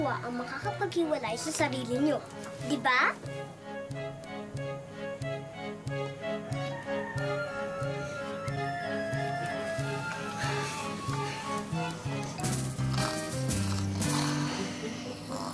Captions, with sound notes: can split up yourselves, right? [Pepito exhales] [boys snoring]